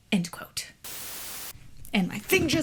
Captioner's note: static noise